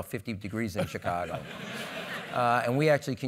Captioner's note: laugh